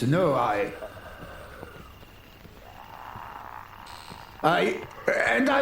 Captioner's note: distant zombies growling